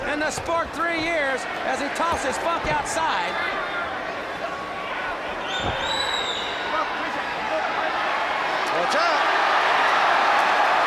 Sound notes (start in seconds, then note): 4.9 crowd chatter; 7.3 crowd cheering